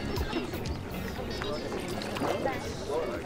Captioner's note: Chattering